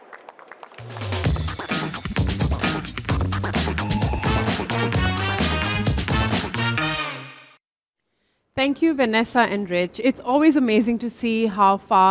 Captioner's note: applause